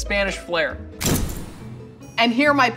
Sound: percussive hit

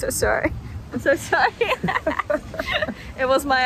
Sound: laugh

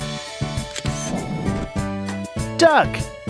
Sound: SFX: Camera Shutter

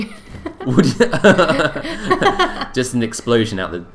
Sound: both laughing

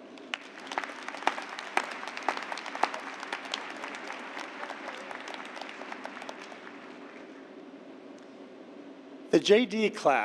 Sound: applause

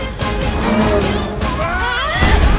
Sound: both scream

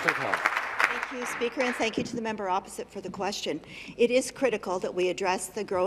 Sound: some Applause

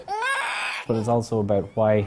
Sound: baby crying

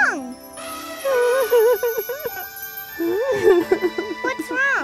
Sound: crying

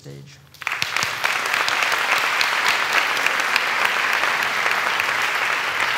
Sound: applause

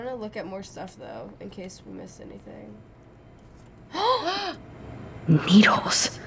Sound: gasp

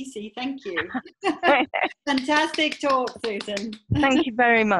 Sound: applause

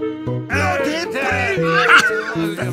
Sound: happy flower noises

